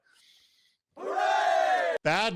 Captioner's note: recorded Crowd